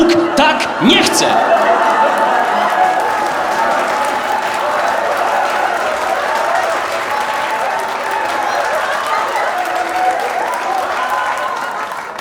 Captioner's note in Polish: oklaski i śmiechy widzów